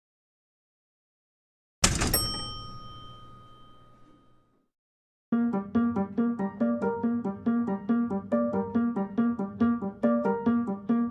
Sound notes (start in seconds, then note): 1.9 elevator ding; 5.3 piano music